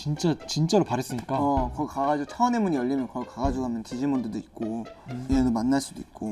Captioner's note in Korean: 두근